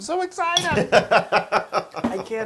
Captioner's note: laugh